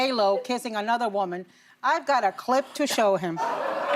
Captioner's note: laughter